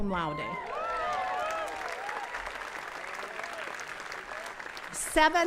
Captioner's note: attendees cheering and clapping